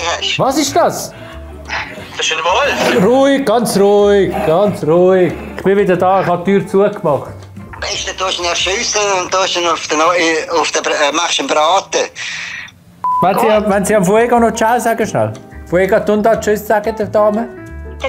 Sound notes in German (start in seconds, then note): 1.6 Knurren